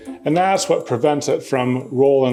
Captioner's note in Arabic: none